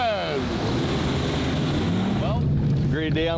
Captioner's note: engine rumbles